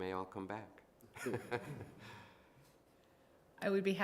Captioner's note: chuckling